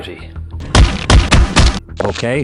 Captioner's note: thuds